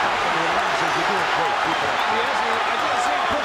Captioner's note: audience cheering